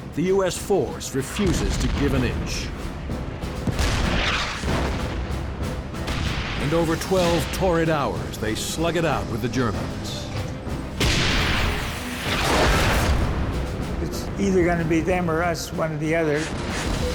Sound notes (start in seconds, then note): 3.6 cannon fires; 11.0 turret firing; 12.2 half-track exploding